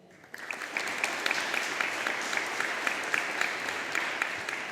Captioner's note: audience applauding